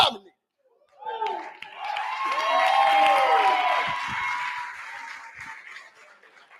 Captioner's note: cheering